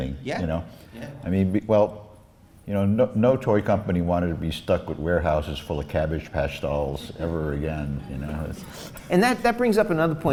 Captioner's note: laughs